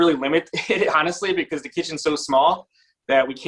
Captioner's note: chuckles